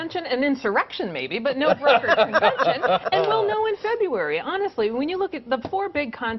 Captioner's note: laughter